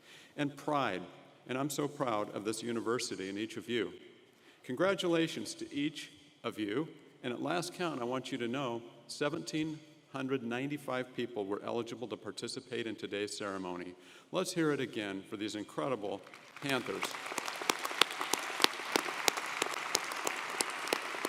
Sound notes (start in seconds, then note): 16.2 audience applauding